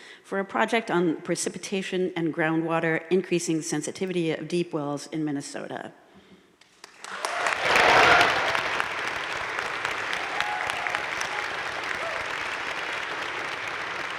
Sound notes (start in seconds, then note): 6.8 audience cheering and applauding